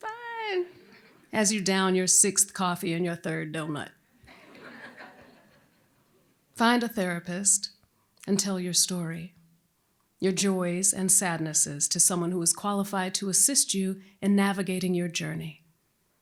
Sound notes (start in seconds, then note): 0.1 laughter